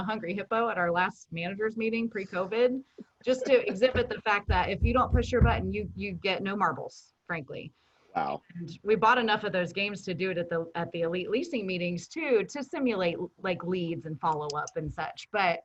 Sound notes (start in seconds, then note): 3.3 laughing